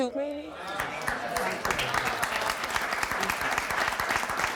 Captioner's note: crowd clapping